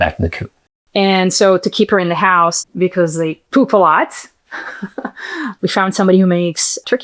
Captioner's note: laughs